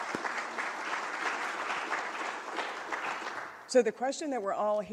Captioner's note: applause